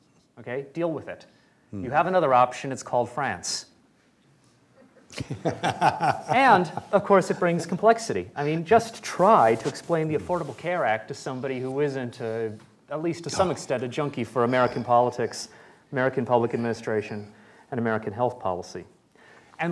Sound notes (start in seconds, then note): 4.8 laughter